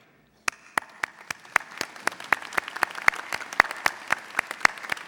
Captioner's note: audience applauding